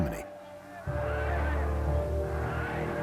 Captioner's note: chanting "Heil"